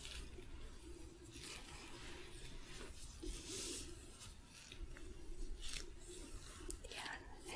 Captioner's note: shuffling, sticky glove sounds